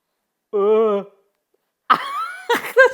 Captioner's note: whimpering; laughs